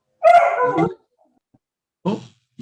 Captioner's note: dog barking